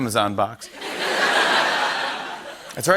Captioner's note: laughter